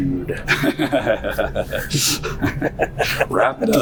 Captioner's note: laughter